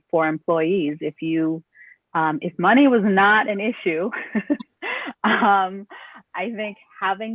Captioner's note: laughter